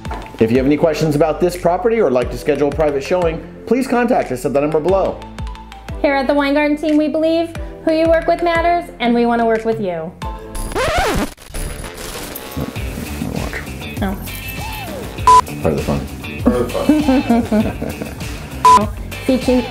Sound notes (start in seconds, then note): 10.6 record scratching; 16.4 laughing